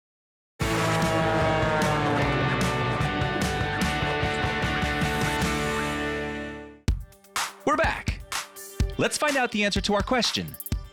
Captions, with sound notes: (plane engine roars) (energetic rock music) We're back, lets find out the answer to our question.